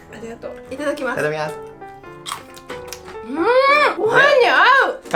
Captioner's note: both speaking Japanese